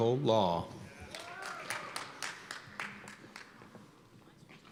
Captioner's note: cheers and applause